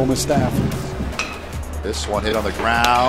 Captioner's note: ball hitting bat